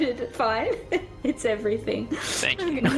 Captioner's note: heh